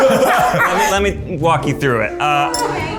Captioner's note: laughs